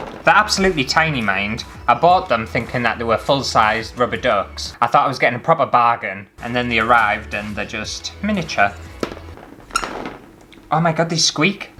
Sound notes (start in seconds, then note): 8.7 ducks Squeaks